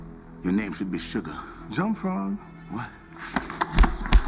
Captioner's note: speaks Mandarin